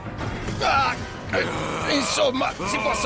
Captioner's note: barbaric snarling